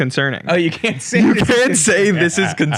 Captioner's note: laughs